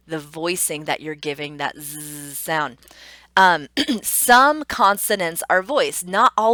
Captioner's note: clearing throat